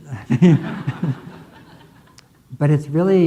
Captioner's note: audience laughing